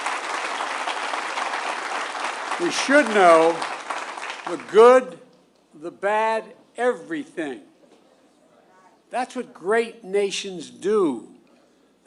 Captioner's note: applause